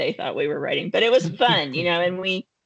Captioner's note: chuckling